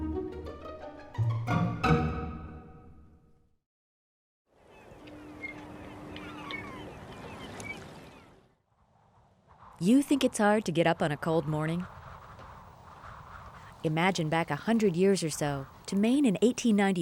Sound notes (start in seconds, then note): 0.0 up-tempo jaunty string music; 4.6 water laps; 4.6 gulls caw; 12.5 wind blows